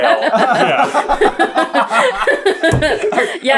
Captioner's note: team laughter